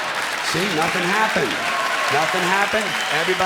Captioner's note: clapping and cheering